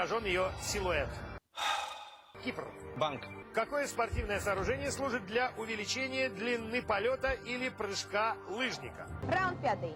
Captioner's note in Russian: вздыхает